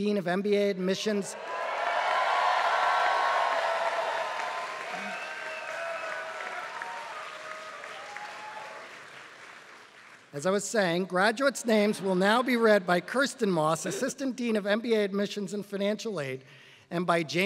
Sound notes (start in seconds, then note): 1.4 applause